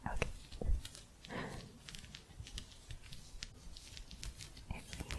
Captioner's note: gentle scratching